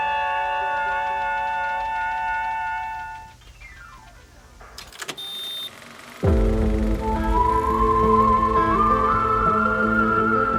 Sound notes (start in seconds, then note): 4.4 film reel ticking; 6.2 haunting Western music